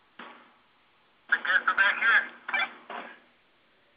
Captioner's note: radio noises